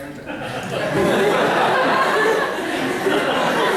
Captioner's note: laughter